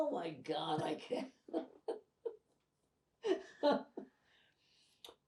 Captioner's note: pauses 6 seconds